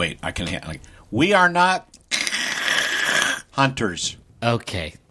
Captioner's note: imitates static noise